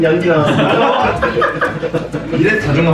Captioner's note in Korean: 웃음소리